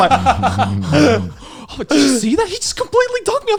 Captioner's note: laughing